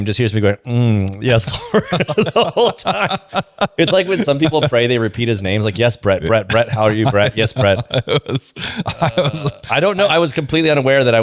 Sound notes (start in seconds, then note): 3.8 laughs; 8.4 laughs